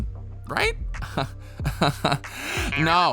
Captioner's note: laughs